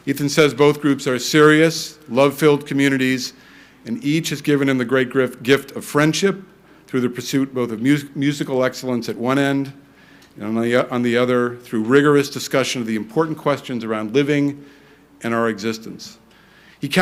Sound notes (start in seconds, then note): none